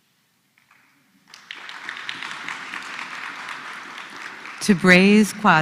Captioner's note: applause